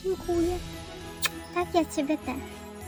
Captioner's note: cmok